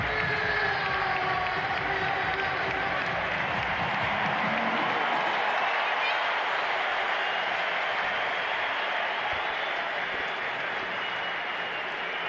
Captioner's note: cheers and applause